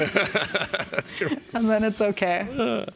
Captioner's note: laughter